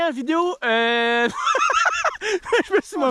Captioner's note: laugh